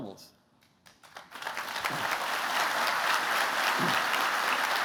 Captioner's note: applause